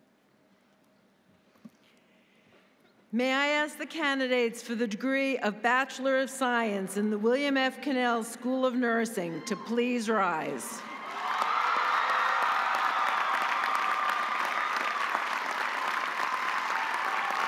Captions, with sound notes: - May I ask the candidates for the degree of Bachelor of Science in the William F. Connell School of Nursing to please rise. (audience cheering) (audience applauding)